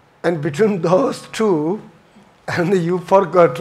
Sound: chuckles

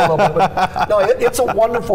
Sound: laughing

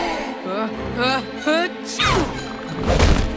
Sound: sneezing

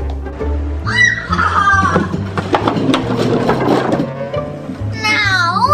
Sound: evil Assistant laughs evilly

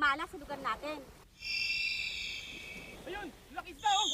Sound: shrieking in distance

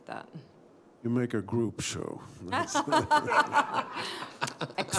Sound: laughter

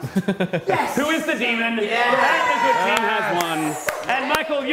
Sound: good team cheering

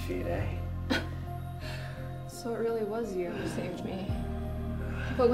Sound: laugh

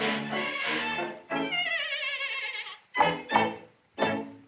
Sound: neighs

